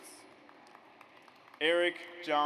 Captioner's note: audience applauds